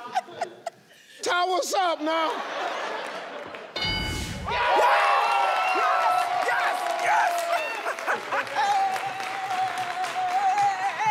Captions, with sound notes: Sthandwa sam', now! (contestants cheer)